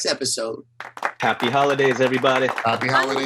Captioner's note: applause